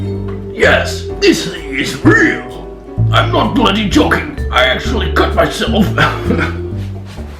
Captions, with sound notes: Yes! This thing is real! I'm not bloody joking, I actually cut myself *giggles*